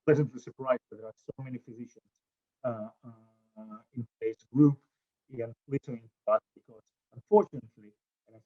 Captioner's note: audio drop